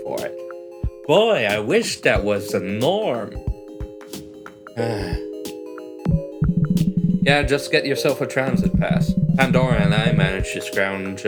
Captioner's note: sigh